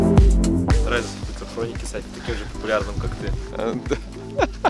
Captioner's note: laughing